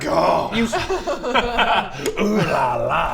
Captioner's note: laughs